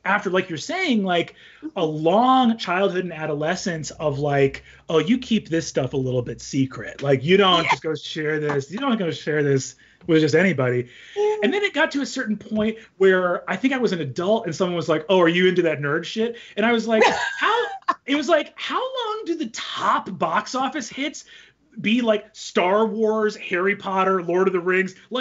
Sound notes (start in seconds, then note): 16.9 laughs